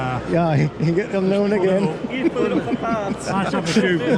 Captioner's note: laughter